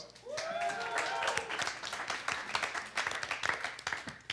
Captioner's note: audience cheering and applause